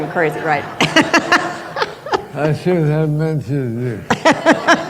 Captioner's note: laughter